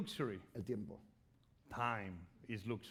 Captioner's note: speaking spanish